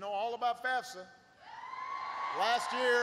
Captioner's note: applause